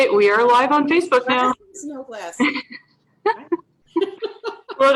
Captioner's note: laughs